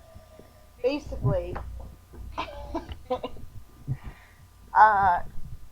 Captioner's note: awkward laughter